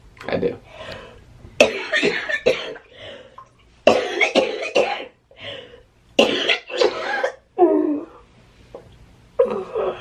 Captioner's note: coughing